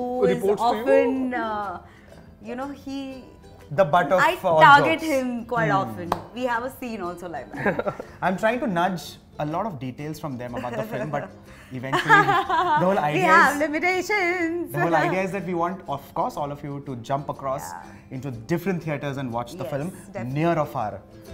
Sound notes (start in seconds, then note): 7.6 chuckles; 11.9 laughter